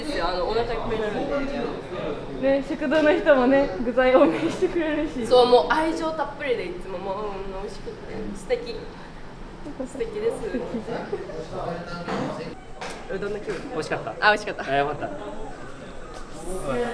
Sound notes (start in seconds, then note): 4.1 laugh